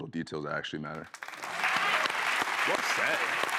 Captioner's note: applause